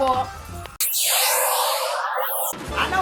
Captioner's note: ear bleeding sounds